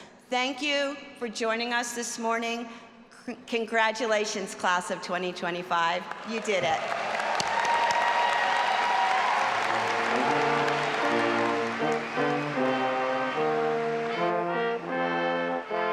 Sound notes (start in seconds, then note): 6.1 all applauding and cheering